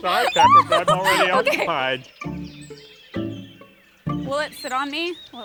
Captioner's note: chuckling uncomfortably